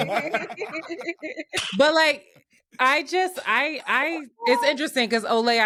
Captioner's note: laughing